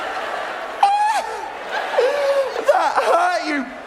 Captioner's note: yelping